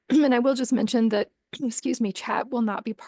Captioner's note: clears throat